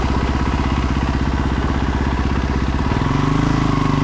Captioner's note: engine roaring